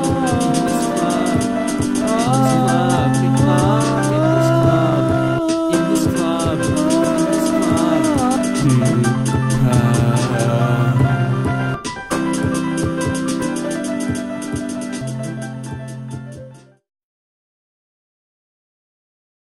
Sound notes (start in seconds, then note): 12.1 music fades out to a complete stop; 17.0 silence